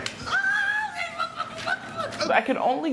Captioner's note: screaming